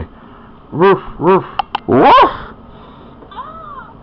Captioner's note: George barking